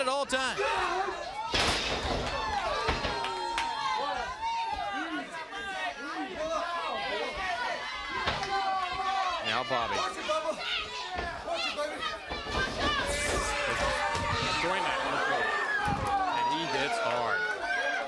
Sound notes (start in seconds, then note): 1.5 crowd cheering; 11.2 crowd chatter; 12.5 crowd cheering